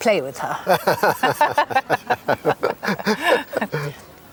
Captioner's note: both laugh